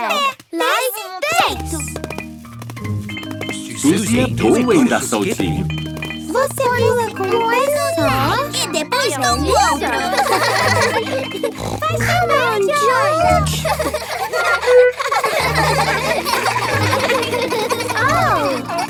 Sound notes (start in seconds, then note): 10.5 laughs; 11.4 snort